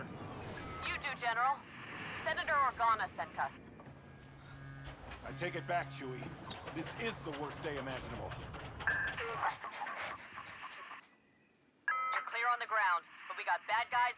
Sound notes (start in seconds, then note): 9.2 laughs